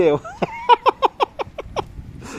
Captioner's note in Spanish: risas